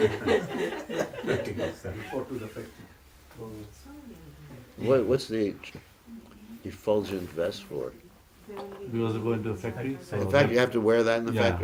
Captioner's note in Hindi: हँसी